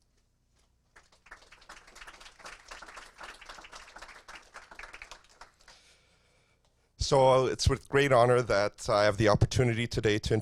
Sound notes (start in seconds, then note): 1.0 audience applause